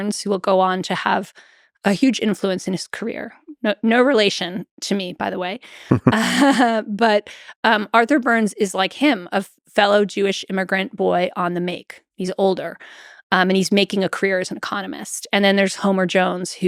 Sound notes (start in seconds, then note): 5.9 Lex and Jennifer chuckle